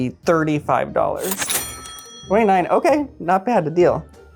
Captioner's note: cash register dings